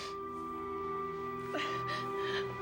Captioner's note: sobbing